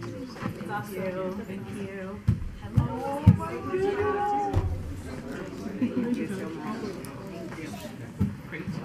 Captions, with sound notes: - [Woman's Voice] Love you, thank you. (overlapping muttering)